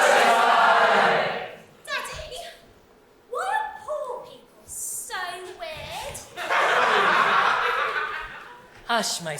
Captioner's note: audience laugh